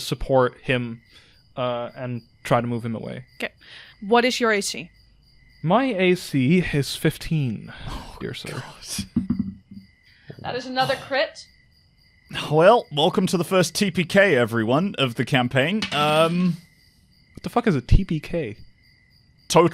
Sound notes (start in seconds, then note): 10.4 whispering; 10.4 dice thunks; 15.8 dice clacks